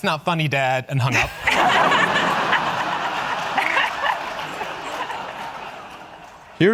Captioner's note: audience laughing